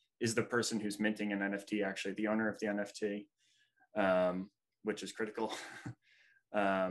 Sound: breathy Chuckle

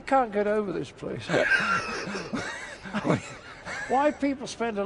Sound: laughs

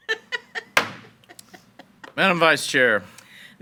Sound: board member laughs; gavel bangs

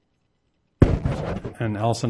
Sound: microphone rubbing

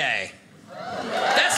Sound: audience cheers

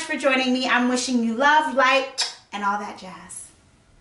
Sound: kisses

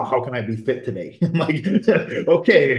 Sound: laughs

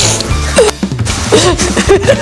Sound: laughter

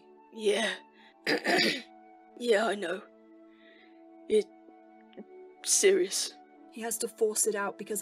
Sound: James clears his throught

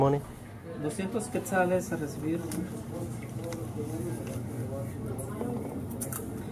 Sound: speaking in foreign language

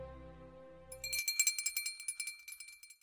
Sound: bell tinkling

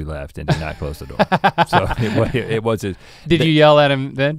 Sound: chuckles

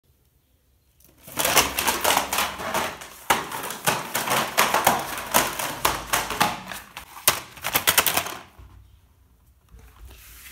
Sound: video game boxes falling

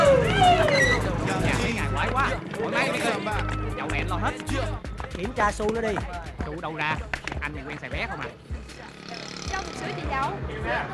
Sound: people talking noisily

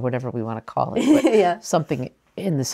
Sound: laughter

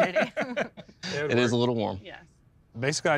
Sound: laughing

